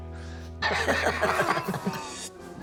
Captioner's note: laughter